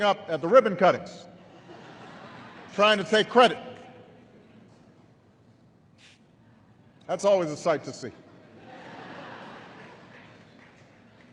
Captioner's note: laughter